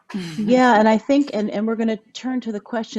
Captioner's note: laughs